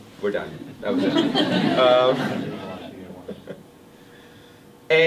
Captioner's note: everyone laughs